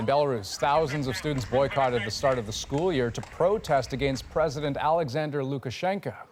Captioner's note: crowd noise